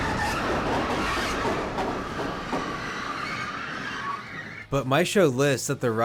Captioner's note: rumbling squeal with rhythmic *thunks